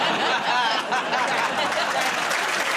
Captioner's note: laughter